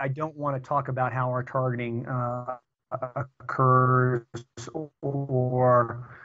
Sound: audio corruption

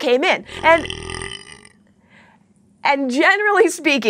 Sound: squeaks burps

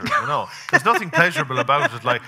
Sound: laughing

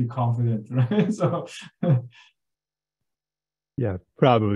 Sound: laughs

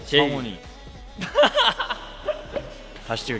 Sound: haha

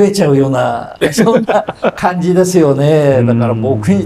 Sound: laughs

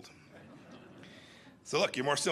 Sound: laughter

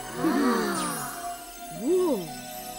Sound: all gasp

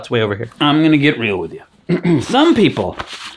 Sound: clears throat

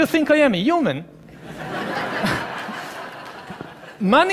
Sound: laughing

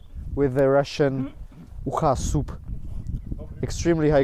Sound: speaking foreign language

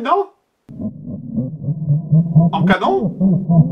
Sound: laughs demonic upside; laughs demonic canon

